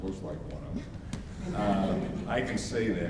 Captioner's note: audience laughs